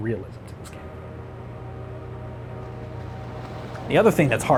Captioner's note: train horn